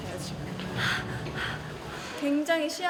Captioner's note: deep breaths